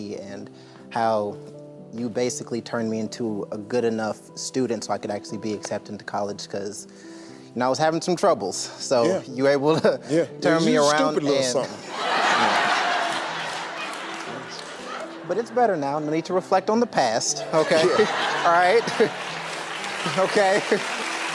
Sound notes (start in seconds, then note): 9.2 chuckles; 11.6 audience laughing; 17.4 audience laughing; 17.4 chuckles